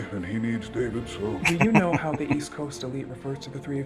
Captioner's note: chuckling